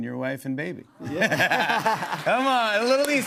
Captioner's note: laughter